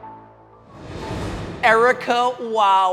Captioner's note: upbeat music; air swooshing